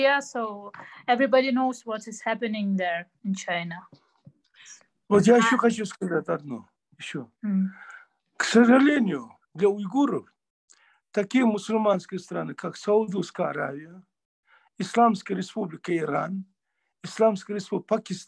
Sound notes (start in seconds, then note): 9.8 in Russian